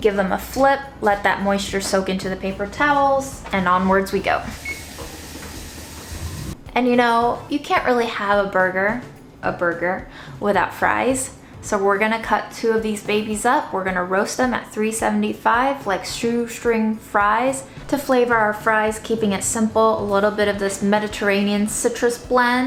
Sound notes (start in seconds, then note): 4.5 beeping sound